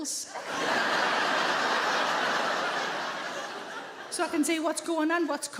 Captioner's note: audience laughing